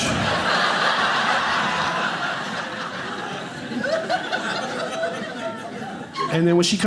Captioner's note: audience laughing